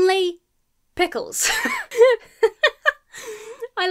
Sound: laughs

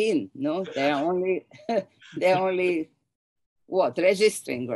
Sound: chuckles

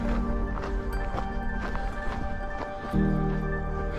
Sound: panting

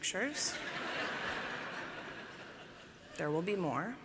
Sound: laughter

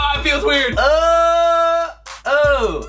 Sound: groans in disgust

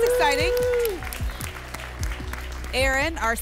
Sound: applause and cheering

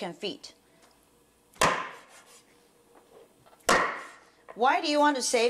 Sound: snap of butcher knife

